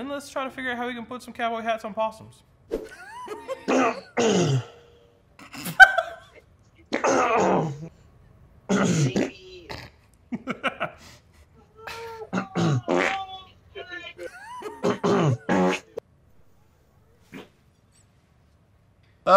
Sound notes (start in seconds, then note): 2.8 laughs; 3.0 man coughs; 3.7 man farts; 5.5 laughing; 6.7 man coughs; 6.9 man farts; 8.7 man coughs; 8.7 man farts; 10.3 laughs; 11.9 man coughs; 11.9 man farts; 14.2 man coughs